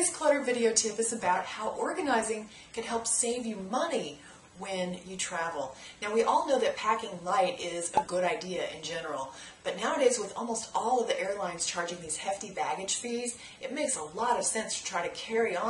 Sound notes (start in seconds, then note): 7.9 pop